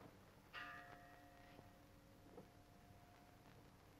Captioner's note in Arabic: رنين الجرس